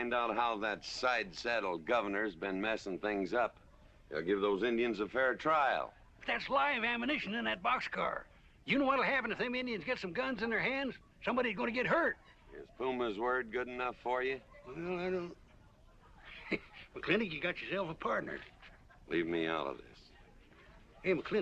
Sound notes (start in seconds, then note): 15.6 chuckling